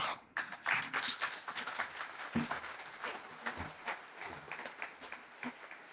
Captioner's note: applause